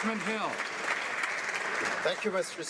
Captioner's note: some Applause